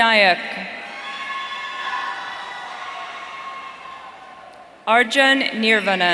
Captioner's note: audience cheering